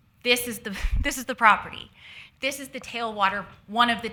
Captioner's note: none